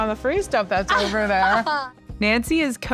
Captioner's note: laughs